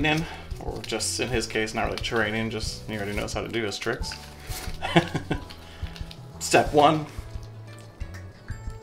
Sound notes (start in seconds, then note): 4.8 laughs